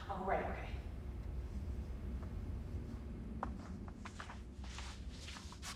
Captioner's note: none